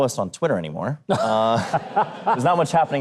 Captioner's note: Huckabee and audience laugh